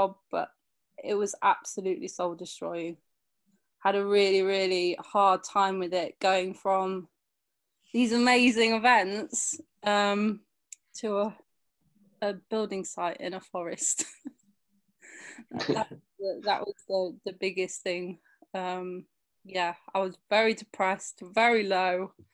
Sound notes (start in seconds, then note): 15.5 chuckles